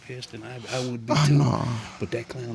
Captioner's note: groans